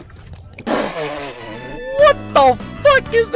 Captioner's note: spits out water